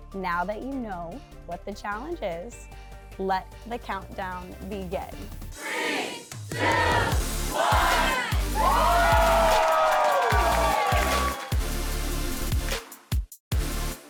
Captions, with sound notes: Now that you know what the challenge is, let the countdown begin. Three. Two. One. Whooo! (Cheering) (Techno music)